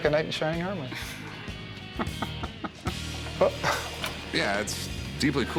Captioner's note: laughs